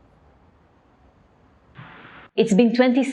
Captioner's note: silence